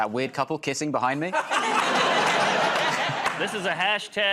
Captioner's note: laughter